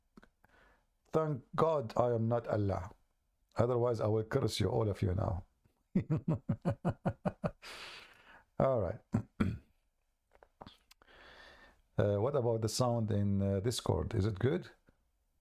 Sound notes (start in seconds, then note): 5.9 Ketawa